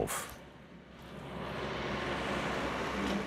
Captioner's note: loud excavator humming